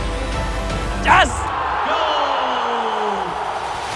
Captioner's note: audience cheers